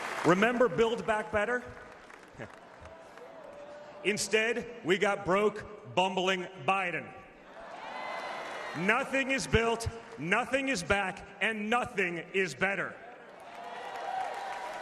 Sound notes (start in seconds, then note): 3.2 applause